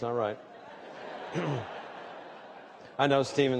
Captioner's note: laughter